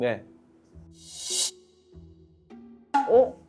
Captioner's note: swoosh